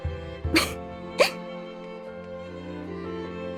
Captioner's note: chuckle